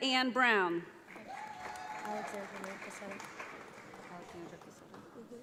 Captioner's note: audience applauds